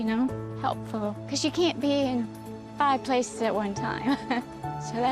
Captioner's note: chuckles